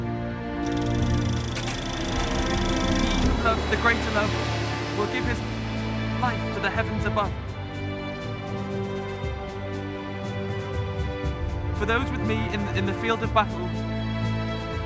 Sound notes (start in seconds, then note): 0.2 dramatic music; 0.6 clicking